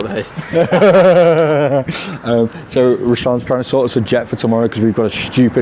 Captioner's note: laughs